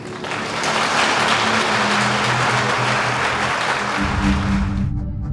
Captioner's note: attendees applauding